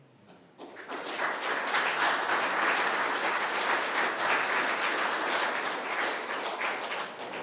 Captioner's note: applause